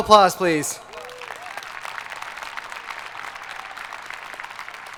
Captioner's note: audience applauding